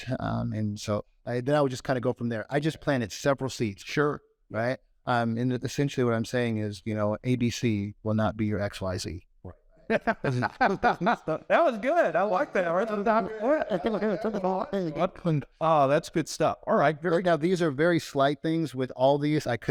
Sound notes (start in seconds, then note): 9.9 laughs